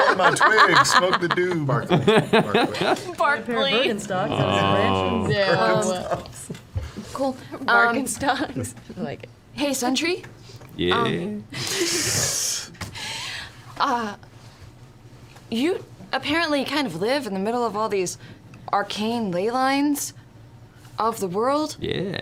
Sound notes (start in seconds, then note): 0.0 all laugh; 7.2 groans